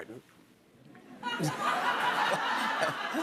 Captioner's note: laughter